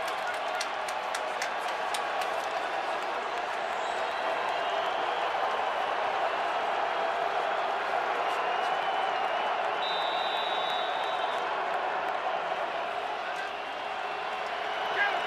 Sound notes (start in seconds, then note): 9.7 whistles